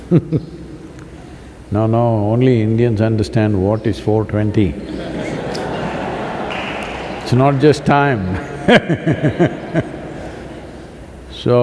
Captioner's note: laughter; laughter/Applause; laughs